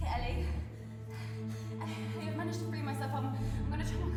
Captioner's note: gasping